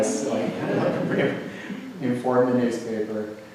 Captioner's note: audience laughs